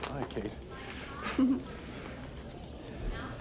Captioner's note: giggles